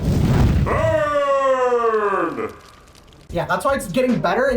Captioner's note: flames rage; voice-over